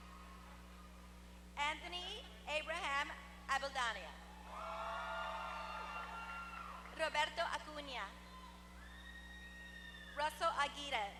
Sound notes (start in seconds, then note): 4.5 applause